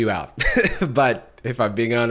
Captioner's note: chuckles